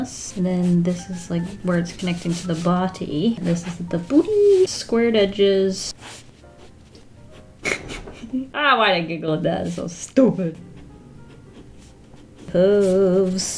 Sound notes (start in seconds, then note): 7.6 giggles